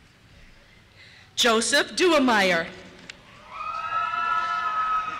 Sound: voiceover; cheers

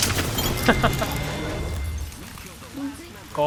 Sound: laughs

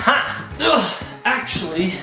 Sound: grunting

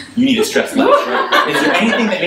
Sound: audience laughs

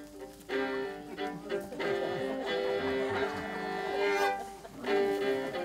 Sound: crowd giggling

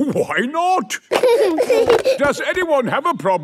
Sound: giggling

